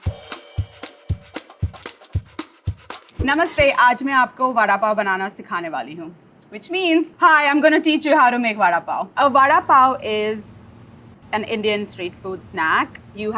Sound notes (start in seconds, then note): 0.0 up-tempo percussive jazzy music; 3.6 speaks in foreign language